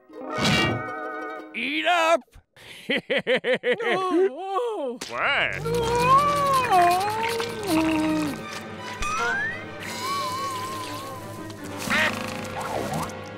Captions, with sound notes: Eat up! [laughing] [groaning] What? Oh. [groaning]